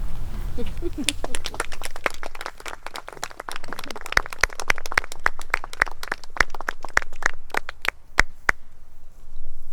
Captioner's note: group chuckles; applause